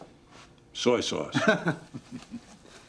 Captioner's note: laughing